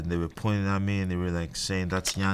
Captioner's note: keyboard clicking